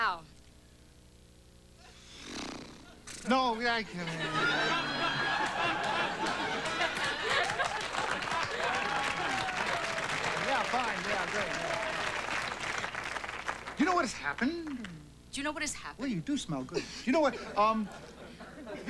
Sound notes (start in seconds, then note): 1.3 loud sighing